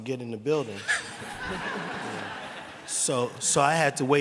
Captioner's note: laughter